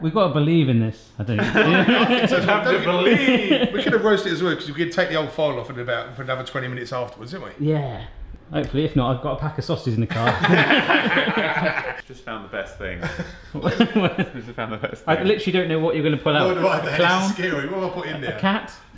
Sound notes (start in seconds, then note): 1.4 all laugh; 10.1 all laugh